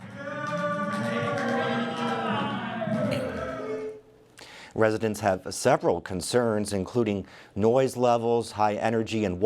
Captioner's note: chorus of ayes